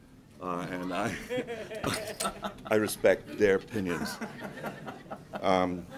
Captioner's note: group laughs